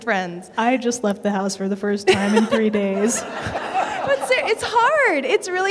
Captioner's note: laughter